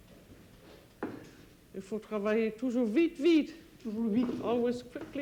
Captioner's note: speaking French